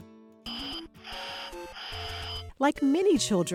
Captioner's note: electronic beeping